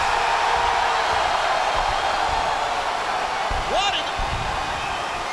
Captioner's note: audience cheering